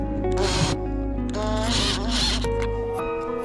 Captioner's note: drill sounds